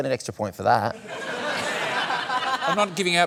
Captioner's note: laughter